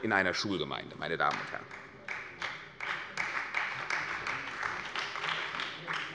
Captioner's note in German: Beifall bei der CDU und dem BÜNDNIS 90/DIE GRÜNEN